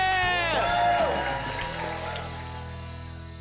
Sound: cheers and applause

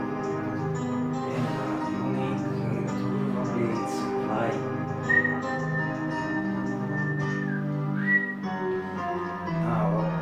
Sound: whistle

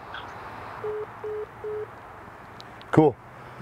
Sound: phone beeping

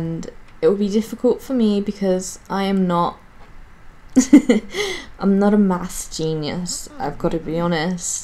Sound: giggles

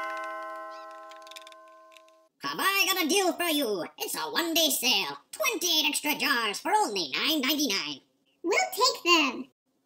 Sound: doorbell

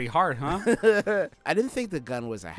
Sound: laughing

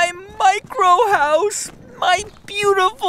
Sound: soundbite of rope reeling

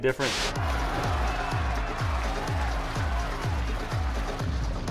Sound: cheering and clapping

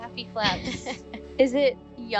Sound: lady 1 laughing

